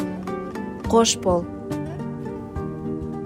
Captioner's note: in Kazakh